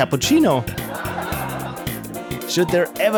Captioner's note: laughter